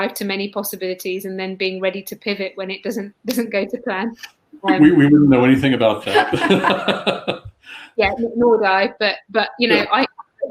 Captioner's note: laughter